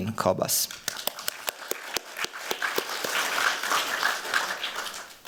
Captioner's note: applause